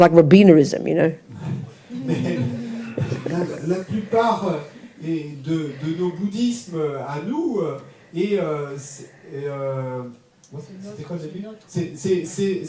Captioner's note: audience member speaks in French